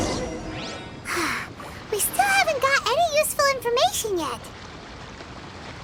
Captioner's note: sigh